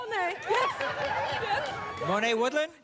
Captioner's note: laughter